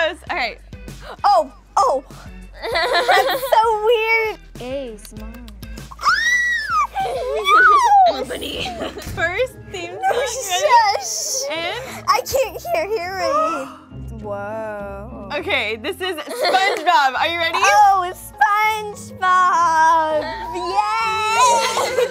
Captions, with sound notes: - Alright. - Oh, oh! That's so weird! [screaming] No! - First theme song, ready? - No, shush! - And... - I can't hear! Woah! OK, this is SpongeBob, are you ready? Oh, SpongeBob, yay!